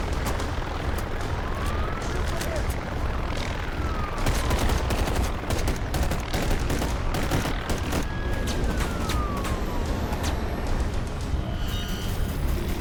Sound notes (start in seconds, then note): 4.2 gun firing; 7.5 dramatic music